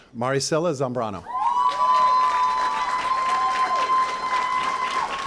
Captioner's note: cheering & applause